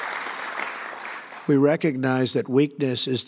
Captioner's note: applause